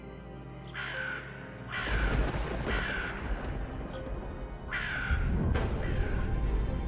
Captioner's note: bird caws; lightening crackles